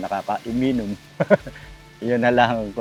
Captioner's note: laughs